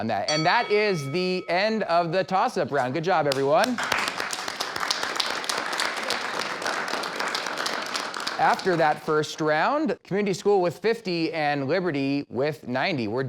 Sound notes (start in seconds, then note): 3.3 clapping